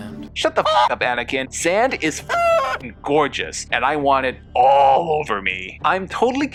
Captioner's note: cluck